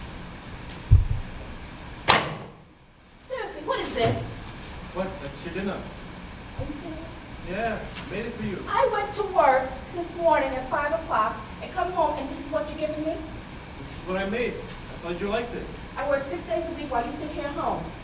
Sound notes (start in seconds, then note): 2.1 plate slams on table